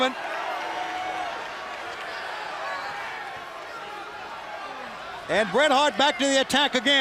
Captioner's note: crowd cheering